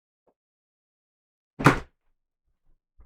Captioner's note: frustrated furniture sounds